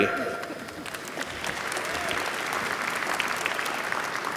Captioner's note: applause